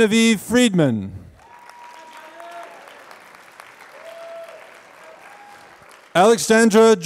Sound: applause

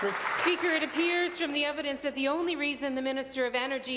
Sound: applause

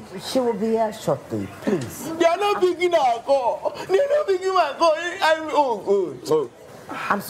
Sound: none

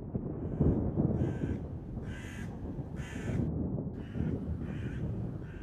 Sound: crows cawing

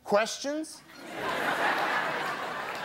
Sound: laughing

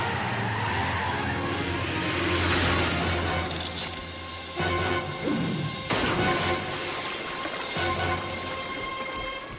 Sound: tires screech

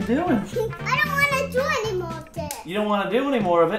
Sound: giggles

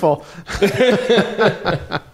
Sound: laughing

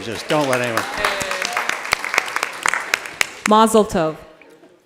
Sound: attendees applauding

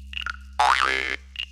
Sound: sproing!

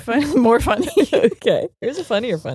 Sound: both laughing

